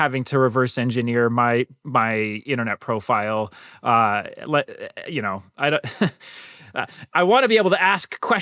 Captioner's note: laughter